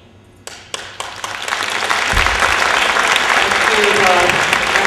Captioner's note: applause